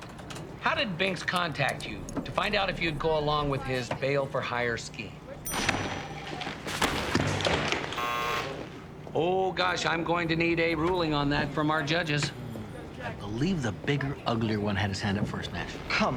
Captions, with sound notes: How did Binx contact you to find out if you'd go along with his bail-for-hire scheme? (bell rings) (buzzer) - Oh gosh, I'm going to need a ruling on that from our judges. - I believe the bigger, uglier one had his hand up first, Nash.